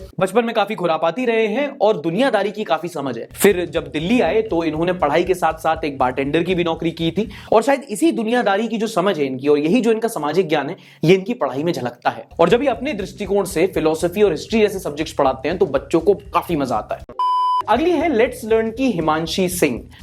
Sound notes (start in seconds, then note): 17.1 beep